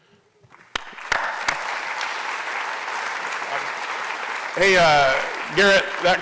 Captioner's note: applause